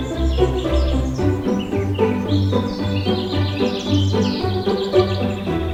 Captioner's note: birds chirping